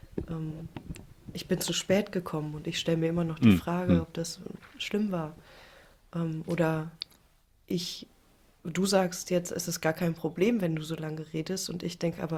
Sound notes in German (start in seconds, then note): 3.4 räuspern